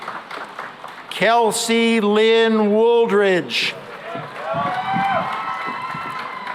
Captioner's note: cheering and applause